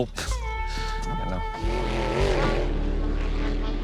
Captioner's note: engine revving